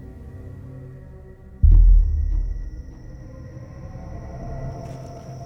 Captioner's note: crickets chirping